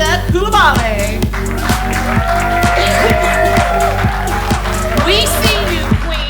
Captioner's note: audience applauding